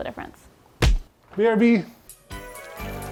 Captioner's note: hand slapping